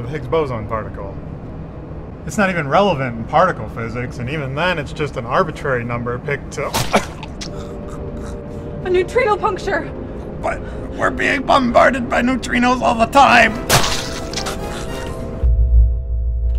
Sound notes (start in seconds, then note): 6.7 blood gushing